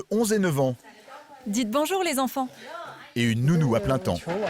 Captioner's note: both speaking foreign language